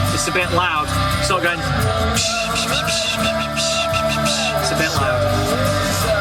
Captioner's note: makes "psshhh" cymbal noises